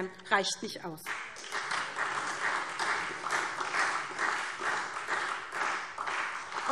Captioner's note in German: Beifall SPD und Freie Demokraten